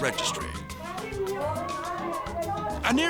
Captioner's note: people chattering